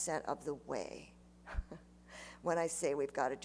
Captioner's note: chuckles